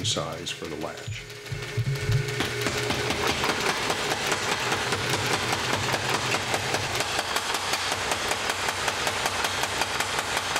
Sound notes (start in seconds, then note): 1.9 sound of machine pounding hot iron